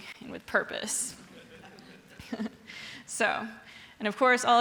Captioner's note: audience laughing